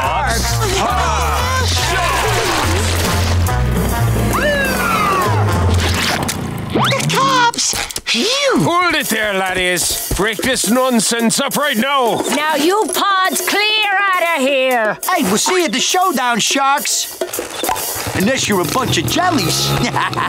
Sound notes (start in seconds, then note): 3.9 sirens wailing